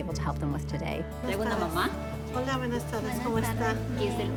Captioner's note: conversation in spanish